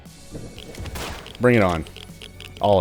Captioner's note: pew